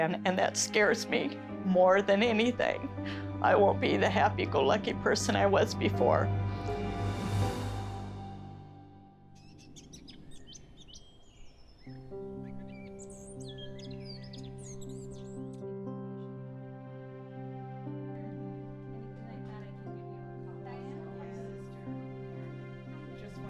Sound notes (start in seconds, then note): 6.4 dramatic music; 9.7 birds chirping, soft music; 15.9 soft, dramatic music